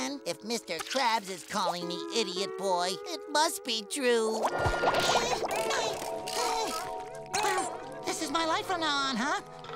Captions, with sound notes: If Mr. Krabs is calling me Idiot Boy, it must be true. [groaning] This is my life from now on, huh?